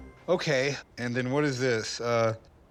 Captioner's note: none